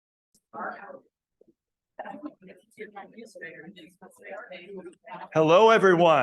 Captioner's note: people chattering